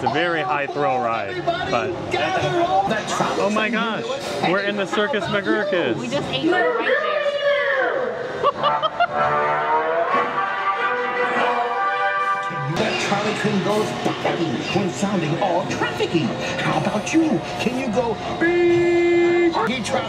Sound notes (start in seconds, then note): 8.6 ride audio blaring